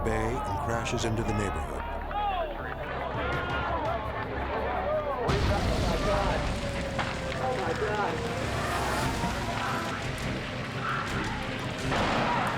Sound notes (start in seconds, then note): 5.0 jet crashing; 8.9 dramatic music